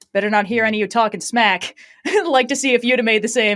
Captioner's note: laughs